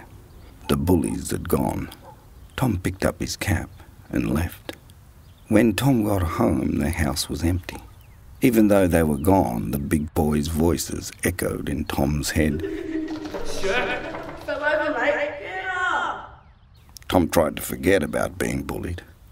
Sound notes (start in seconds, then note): 13.2 bullies' voices taunting him